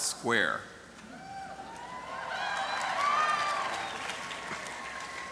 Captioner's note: cheering